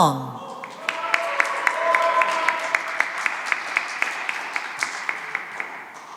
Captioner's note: cheering and applause